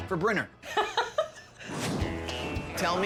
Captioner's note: laughing; upbeat music